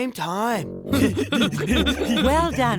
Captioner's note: giggling